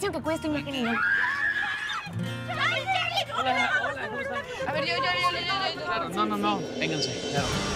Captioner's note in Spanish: Gritos